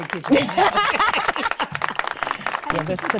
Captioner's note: audience applauding; chuckling